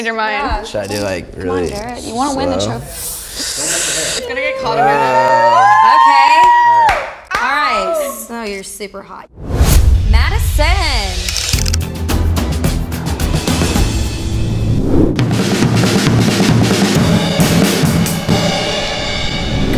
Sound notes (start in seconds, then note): 4.2 girls cheer; 11.5 dramatic music; 15.1 drum music